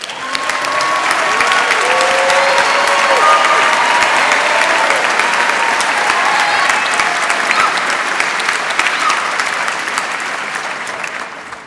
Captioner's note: applause